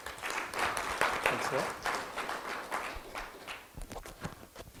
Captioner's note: audience applause